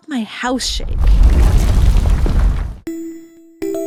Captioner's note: oh no scary earthquake noises ahhh😱😱😱